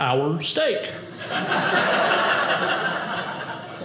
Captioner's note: audience laughing